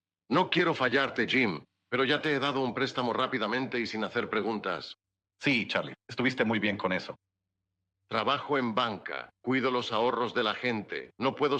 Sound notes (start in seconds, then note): none